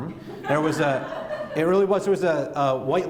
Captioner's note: laughter